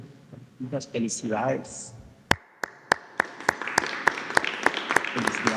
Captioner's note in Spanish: aplausos